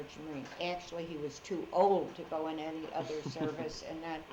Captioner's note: laughs